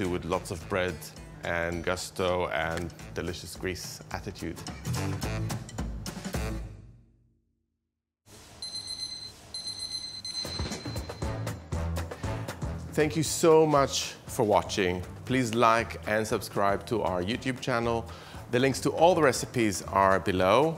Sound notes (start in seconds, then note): 4.7 happy music; 8.6 beeping